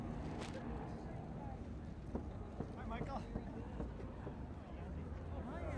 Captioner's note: indistinct chatter